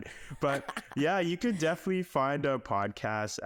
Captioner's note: laughing